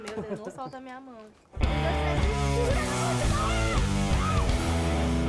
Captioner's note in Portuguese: grita